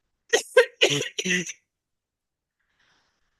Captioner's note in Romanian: râsete